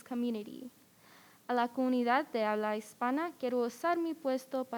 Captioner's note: speaks in Spanish